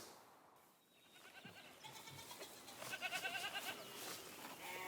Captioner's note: goats bleating